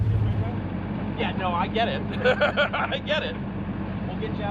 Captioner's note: laughs